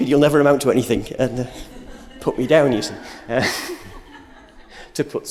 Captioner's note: laughter